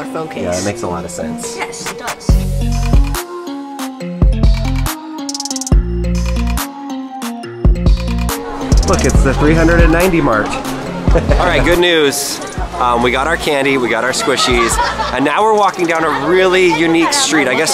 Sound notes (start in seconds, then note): 2.6 energetic music; 10.5 laughs